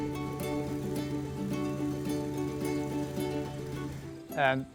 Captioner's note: tractor buzzing; peaceful guitar music